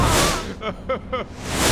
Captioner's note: ahhhhhhhhhhhhhhhhhhhhhhhhhhhhh; sobs